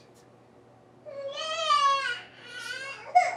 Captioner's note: baby crying